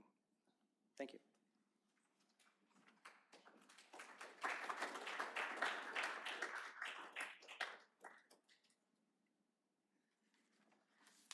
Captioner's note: applause